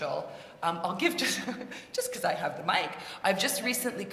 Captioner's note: laugh